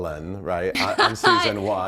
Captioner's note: laughing